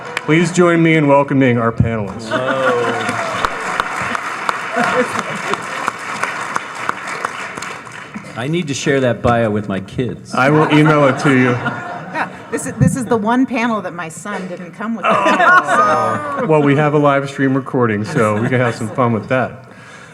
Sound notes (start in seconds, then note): 2.0 all applauding; 14.8 laughing